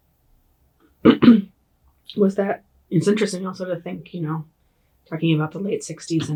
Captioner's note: clear throat